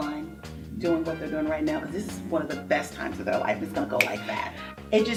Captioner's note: snaps